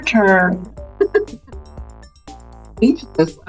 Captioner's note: laughs